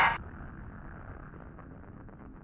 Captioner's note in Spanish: grita